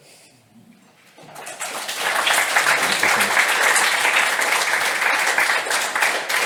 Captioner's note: applause